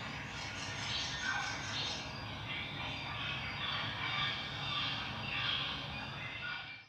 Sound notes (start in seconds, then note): 1.7 animals chittering